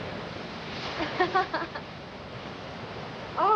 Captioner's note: laughs